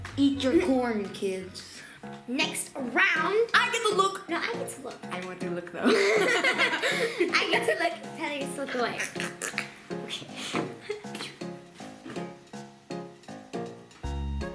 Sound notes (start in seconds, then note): 5.8 giggles; 10.5 giggles; 12.2 upbeat music